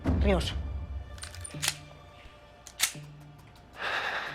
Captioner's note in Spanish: Sonido al enristrar el arma